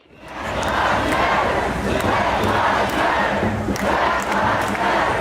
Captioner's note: crowd